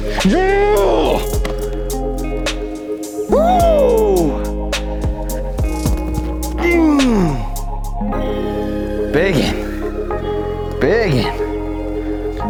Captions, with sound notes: Yeah! Woo! (grunts) Big. Big!